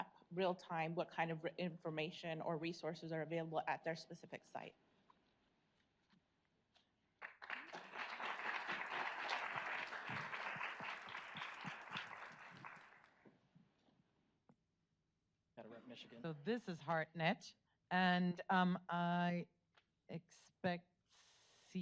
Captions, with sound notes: real-time, what kind of information, or resources are available at their specific site. (audience applauds) - [Male Voice] Better write Michigan. - This is HeartNET, and I expect C3Health next okay good.